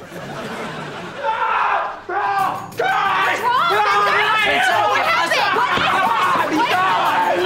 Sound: screaming

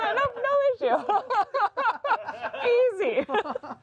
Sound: all laughing

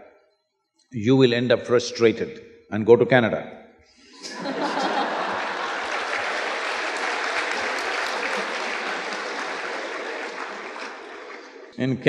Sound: laughter

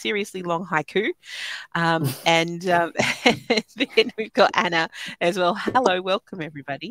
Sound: laughing

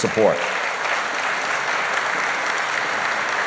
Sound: applause

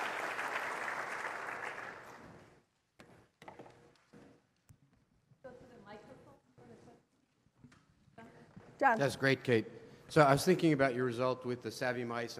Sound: applause

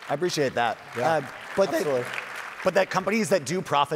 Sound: audience applauding

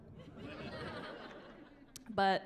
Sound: chuckling

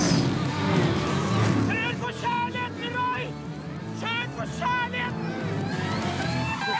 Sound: shouting

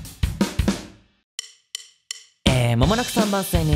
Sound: natural voice

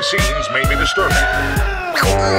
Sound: wailing in agony; sirens; wailing in agony

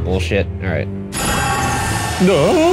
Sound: Malak clangs

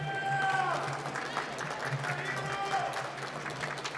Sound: applause

